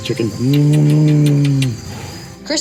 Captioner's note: kissing sounds